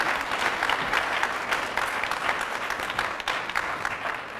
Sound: applause

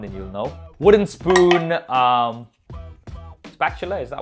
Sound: spoon clatters

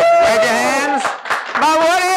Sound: audience clapping and cheering

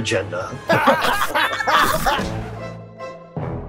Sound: characters laughing

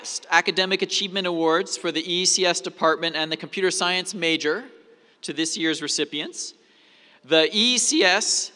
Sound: none

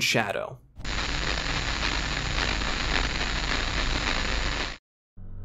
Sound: audio static

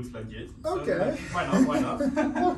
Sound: laughing

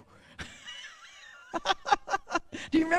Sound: laughs

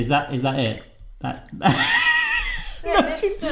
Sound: laughing

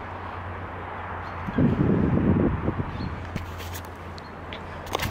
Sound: wind blowing

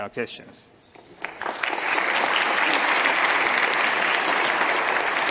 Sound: audience claps

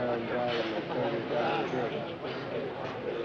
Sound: none

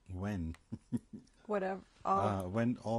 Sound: laughs

